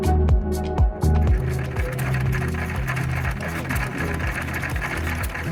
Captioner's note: upbeat music; engines clacking